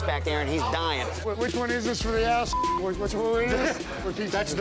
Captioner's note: beep